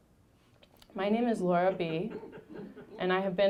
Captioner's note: audience laughing